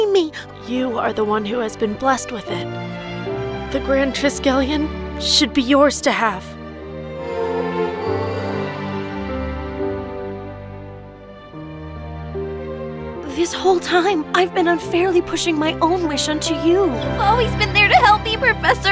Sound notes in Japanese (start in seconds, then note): 7.4 シャイニィシャリオの泣き声